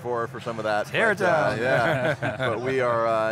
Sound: laughs

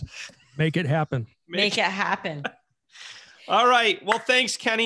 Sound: laughs

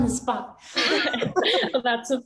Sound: all chuckle

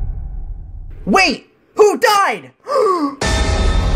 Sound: gasp

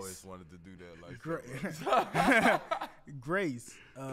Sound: laugh

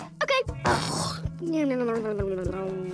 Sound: snoring

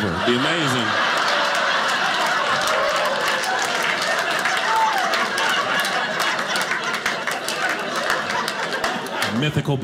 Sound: audience applauding

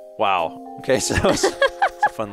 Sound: laughs

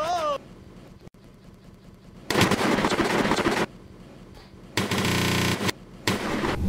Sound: glitching

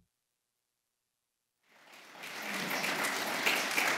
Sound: applause

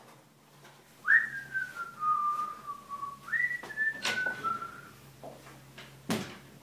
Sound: whistling

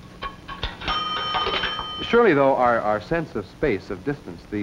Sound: phone rings

